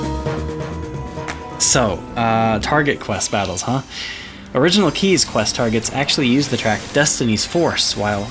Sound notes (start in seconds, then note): 1.2 clap